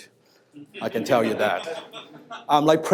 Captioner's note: audience laughs